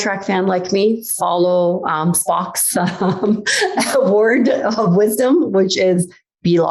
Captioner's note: laughs